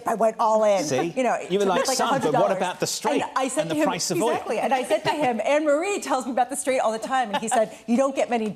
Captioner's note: laughter